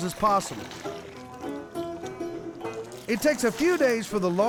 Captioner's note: pouring, splashing